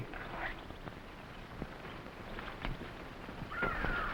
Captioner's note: animals chattering